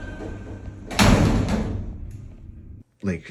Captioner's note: doors close; doors slam